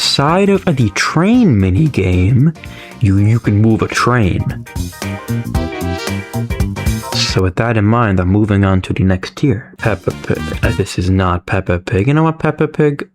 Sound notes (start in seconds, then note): 2.6 inhales Oxygen